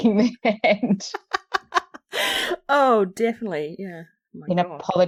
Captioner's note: laughs